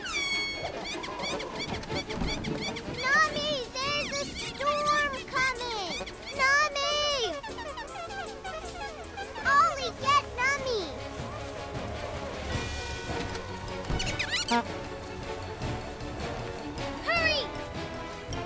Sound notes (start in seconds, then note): 0.1 honks and squeaks; 7.2 squeaking; 13.9 honk squeak